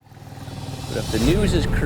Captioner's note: engin chugging